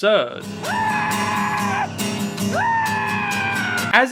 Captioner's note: screaming